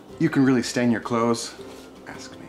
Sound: whispers

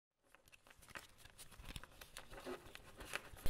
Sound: cards shuffling

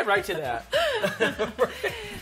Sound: both chuckle

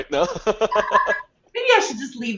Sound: laughing

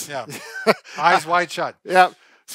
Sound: chuckles

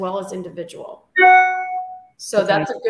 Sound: message alert tone

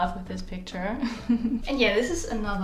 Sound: laughs

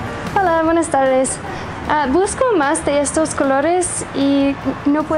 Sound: speaking in Spanish

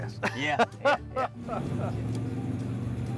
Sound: laughter; engine revving

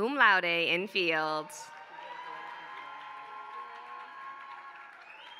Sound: applause

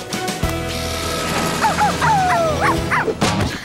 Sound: laughing; barking

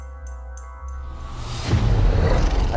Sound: growling

